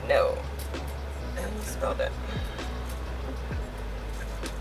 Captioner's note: sighs